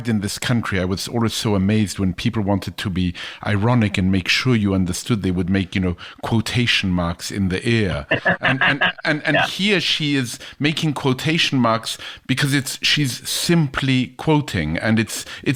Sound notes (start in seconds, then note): 8.0 laughs